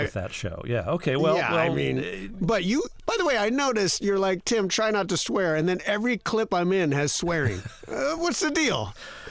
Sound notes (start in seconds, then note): 7.4 laughter